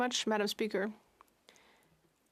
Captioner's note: speaking French